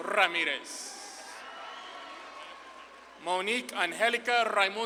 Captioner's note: audience claps and cheers